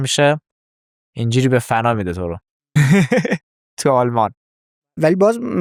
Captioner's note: laughs